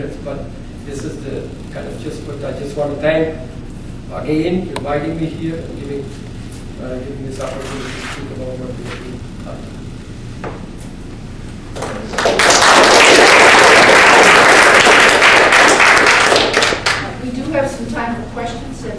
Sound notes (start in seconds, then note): 11.8 audience applauds